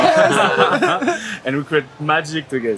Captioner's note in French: Rires